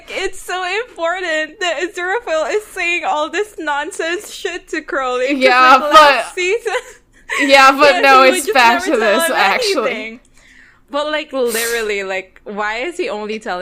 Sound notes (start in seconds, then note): 7.3 laughing